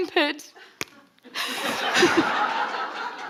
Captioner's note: forehead thumps; audience laughing